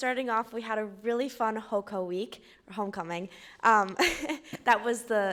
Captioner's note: laughing